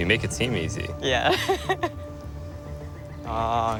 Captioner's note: laughs